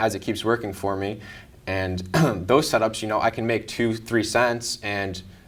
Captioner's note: coughs